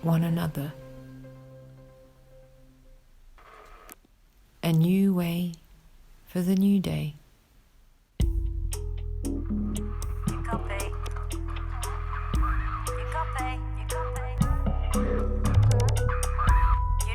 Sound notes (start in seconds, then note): 2.1 music fades to silence; 8.1 gentle music; 10.1 lady on cb radio; 11.8 radio static; 14.7 distorted voice